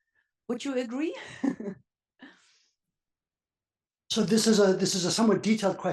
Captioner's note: laugh